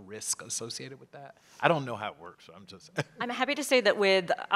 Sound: laugh

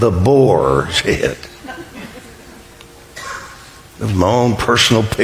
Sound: congregation chuckles

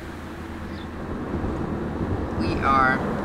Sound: engine humming

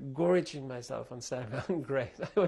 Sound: laughs

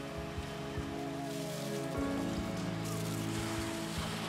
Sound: kids cheering

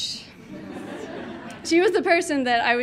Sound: audience laughing

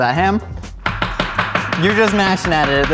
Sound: chopping

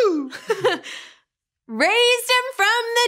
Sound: giggles

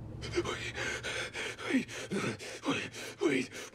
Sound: panting

